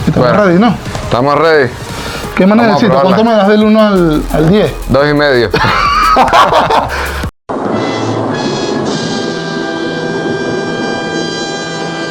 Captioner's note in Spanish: risas